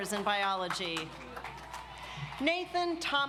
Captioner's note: audience applauds